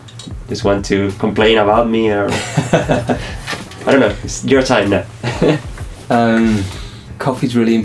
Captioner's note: laugh